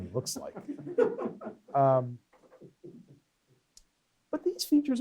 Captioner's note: laughter off-mic